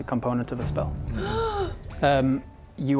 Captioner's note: gasp